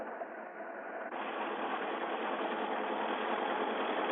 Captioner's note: truck rattling